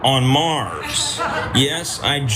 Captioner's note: laugh